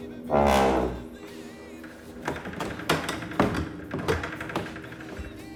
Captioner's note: clanks